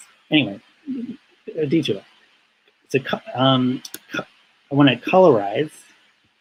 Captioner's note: speaking in foreign language